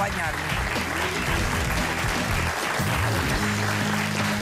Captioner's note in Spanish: aplausos